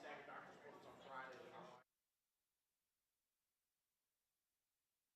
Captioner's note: audio turns off